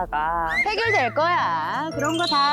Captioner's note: positive sound effect